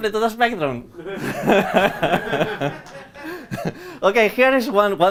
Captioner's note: laughter